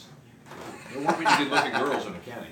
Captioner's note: laughs